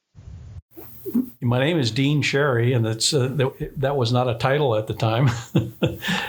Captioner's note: laughing